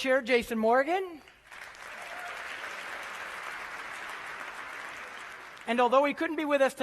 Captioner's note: applause